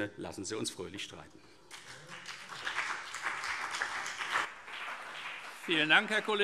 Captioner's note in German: Beifall CDU und BÜNDNIS 90/DIE GRÜNEN